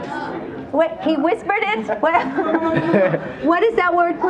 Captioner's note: laughs